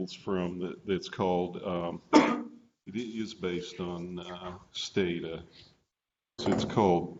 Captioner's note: clears throat